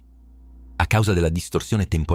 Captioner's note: distortion